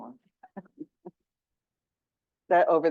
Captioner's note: laughing